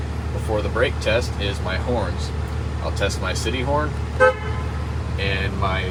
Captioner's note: horn honking